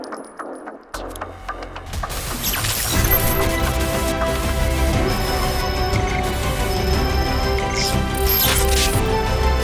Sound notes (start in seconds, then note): 0.1 suspenseful music; 2.3 static crackling; 3.4 exciting music